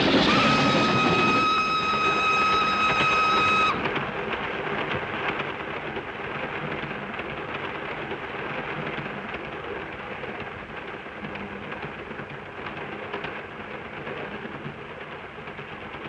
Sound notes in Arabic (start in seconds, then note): 0.0 صافرة القطار; 0.2 هدير القطار; 3.8 صوت خشخشة القطار